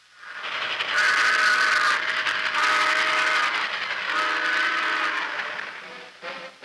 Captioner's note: train whistle